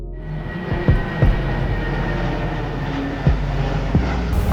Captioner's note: plane flying overhead